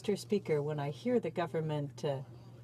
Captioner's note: speaking French